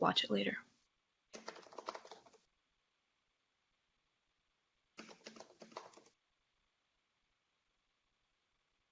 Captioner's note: typing sounds